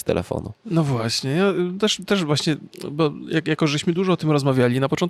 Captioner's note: speaking in Polish; speaking in foreign language